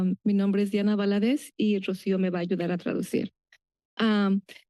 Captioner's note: foreign language